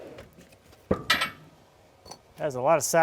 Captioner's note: wood hitting against metal